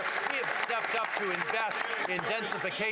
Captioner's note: some Applause